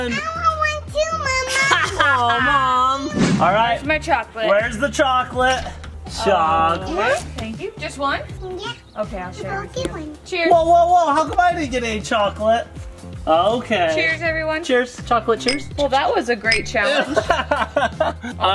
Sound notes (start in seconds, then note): 1.5 laughing; 16.8 laughing